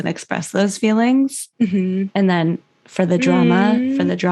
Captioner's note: mhmm